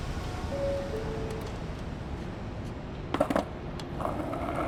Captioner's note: subway door chime